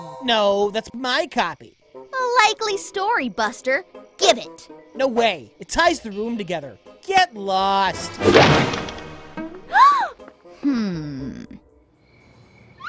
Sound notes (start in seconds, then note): 8.0 door crashes; 9.6 gasps